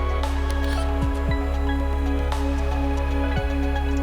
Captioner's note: bright music; graphics buzzing